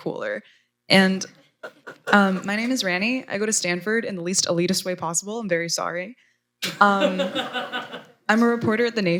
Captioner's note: laughter